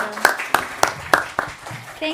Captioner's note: attendees applauding